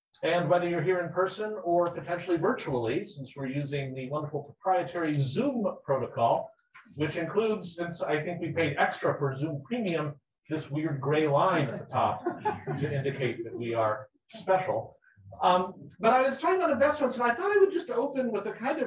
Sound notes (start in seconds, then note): 11.6 people laughing